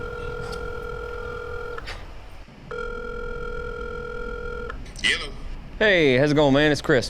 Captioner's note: phone ringing